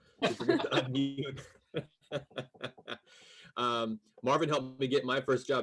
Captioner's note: laughing